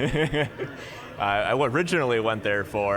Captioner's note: laughing